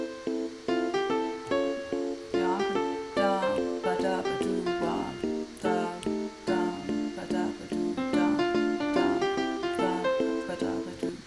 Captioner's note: hums with the music